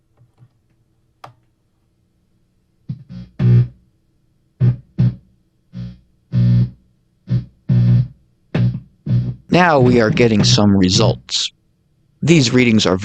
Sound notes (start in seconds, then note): 3.2 buzzing sound